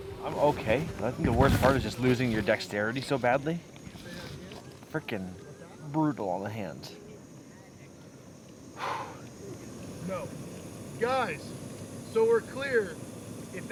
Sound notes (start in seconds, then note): 8.8 heavy exhale